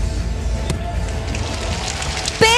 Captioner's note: applause